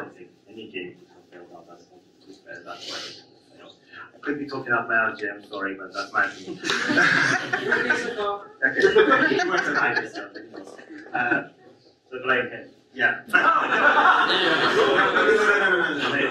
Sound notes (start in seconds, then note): 8.6 audience laughs; 13.3 audience laughs